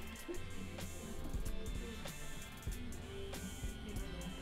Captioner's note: laughter